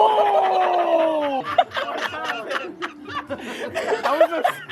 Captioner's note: laughter